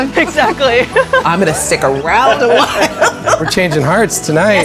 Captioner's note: chuckling; laughing